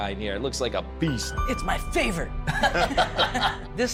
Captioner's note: laughter